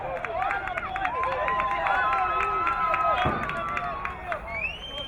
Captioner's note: crowd cheering